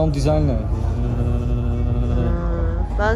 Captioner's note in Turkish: titreme sesi